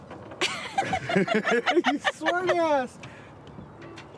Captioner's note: both laugh